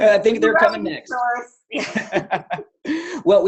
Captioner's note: laughter